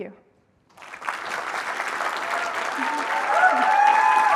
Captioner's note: applause